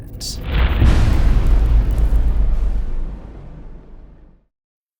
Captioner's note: impact